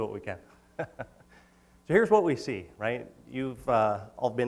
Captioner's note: laughs